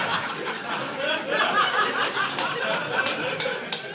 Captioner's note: audience laughing